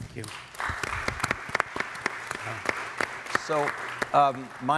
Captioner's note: audience applauding